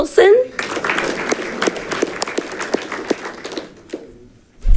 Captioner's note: audience clapping